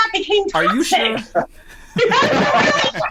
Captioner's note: laughs